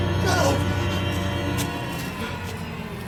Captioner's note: gasping